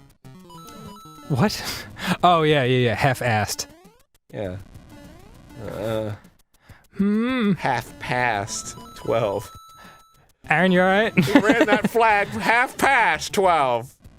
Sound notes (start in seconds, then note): 6.9 hmm!